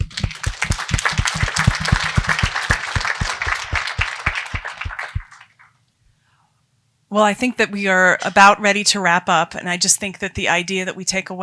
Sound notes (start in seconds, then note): 6.1 applause